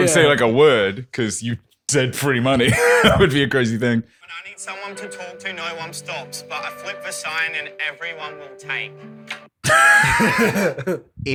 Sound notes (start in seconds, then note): 2.5 laughs; 9.7 laughter